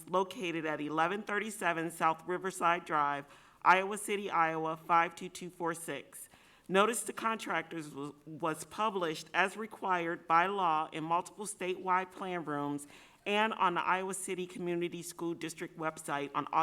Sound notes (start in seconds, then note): none